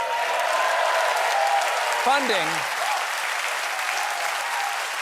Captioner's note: cheers and applause